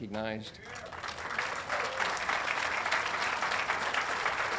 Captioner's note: audience applauding